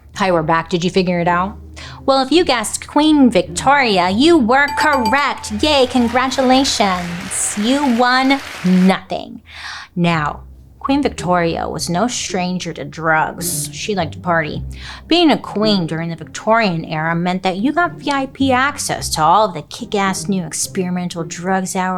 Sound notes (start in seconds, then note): 4.6 bell rings; 7.7 audience applauds